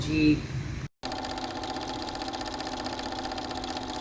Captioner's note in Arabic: صوت تشغيل جهاز العرض